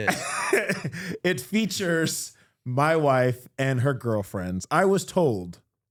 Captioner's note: laughing